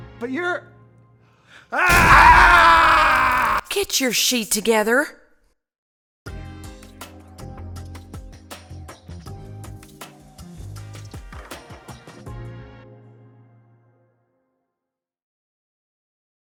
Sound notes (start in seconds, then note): 1.7 screams; 6.0 casual music